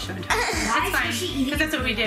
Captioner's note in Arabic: يضحك